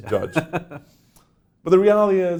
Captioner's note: laughs